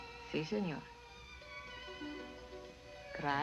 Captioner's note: speaking spanish